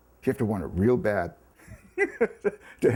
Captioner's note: chuckles